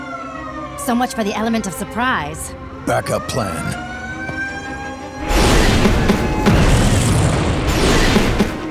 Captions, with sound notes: So much for the element of surprise. Back up plan. [alarm blaring]